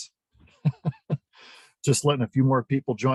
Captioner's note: laughs